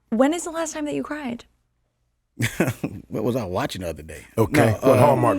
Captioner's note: laughs